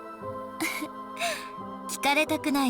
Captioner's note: chuckle